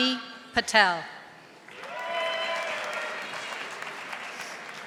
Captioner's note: audience applauding